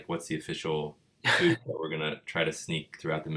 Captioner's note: laughing